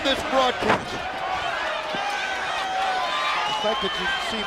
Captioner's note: crowd cheering